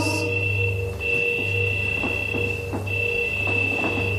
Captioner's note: high pitched beeping